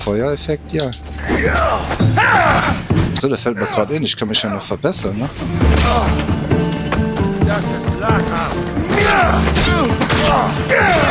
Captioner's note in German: schreien